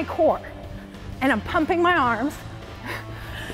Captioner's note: heavy breathing